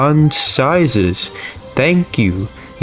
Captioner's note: inhales Oxygen